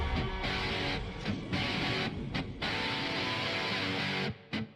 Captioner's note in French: fumée sifflante